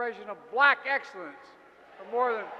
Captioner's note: applause